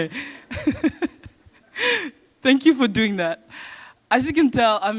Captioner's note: chuckle